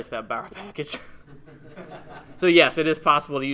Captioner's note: laughs